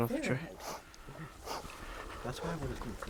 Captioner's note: sniffles